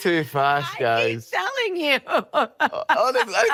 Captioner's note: laughing